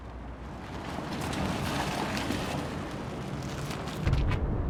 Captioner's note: car whooshes